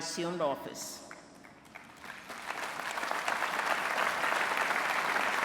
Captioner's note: applause